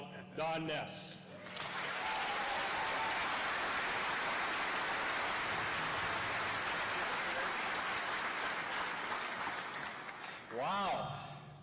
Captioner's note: applause